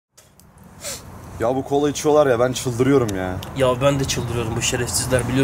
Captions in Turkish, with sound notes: (tükürüş ve burun çekiş) -ya bu kola içiyolar ya ben çıldırıyorum ya -yav ben de çıldırıyorum bu şerefsizler